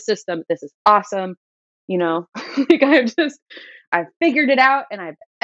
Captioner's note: laughter